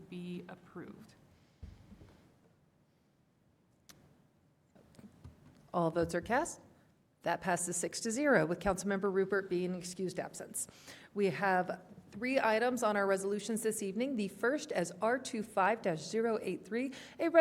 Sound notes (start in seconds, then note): 1.3 quiet pause